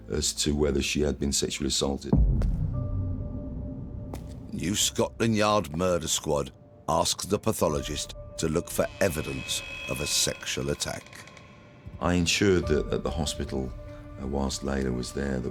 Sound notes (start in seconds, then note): 2.1 dramatic music; 2.2 footsteps thumping